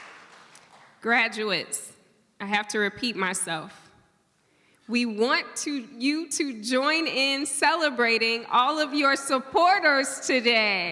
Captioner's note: applause